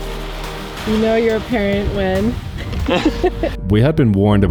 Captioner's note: chuckles